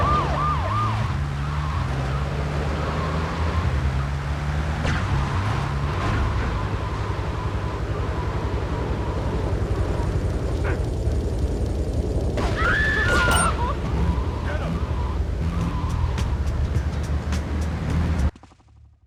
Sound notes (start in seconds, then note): 0.0 car engine roaring; 12.4 screaming; 13.9 car engine roaring